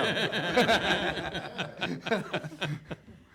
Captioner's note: laughs